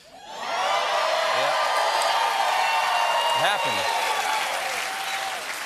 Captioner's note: cheering